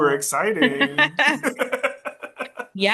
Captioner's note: laugh together